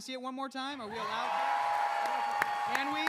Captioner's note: cheers